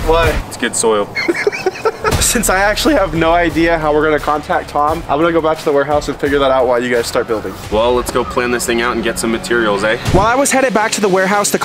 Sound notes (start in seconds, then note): 1.1 laughs